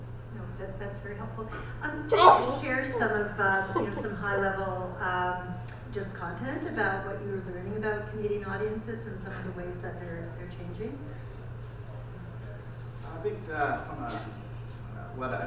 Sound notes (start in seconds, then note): 2.1 audience member sneezes